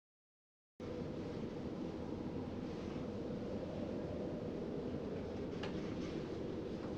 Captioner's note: eerie wind